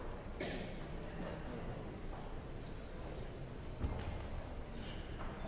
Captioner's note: guests chattering